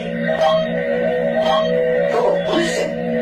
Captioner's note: computer beeps